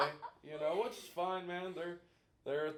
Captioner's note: laughing